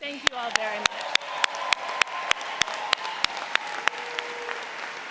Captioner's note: cheering